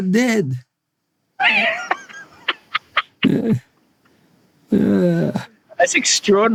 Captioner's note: laugh